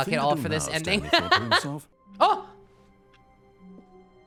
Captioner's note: laughs